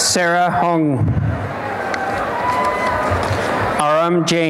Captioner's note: cheering